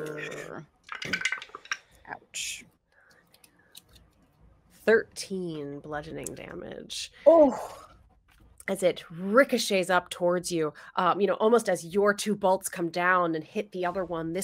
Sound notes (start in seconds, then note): 0.8 dice clatter